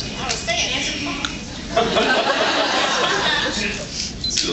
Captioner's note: laughs